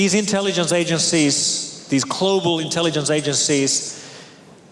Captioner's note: none